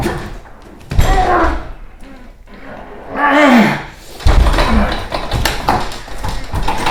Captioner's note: garage door rattles; Manny groans